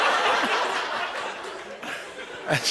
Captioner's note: laughter